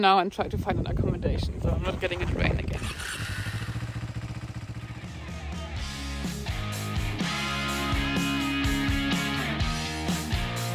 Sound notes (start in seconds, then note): 3.3 bike revving; 5.0 upbeat music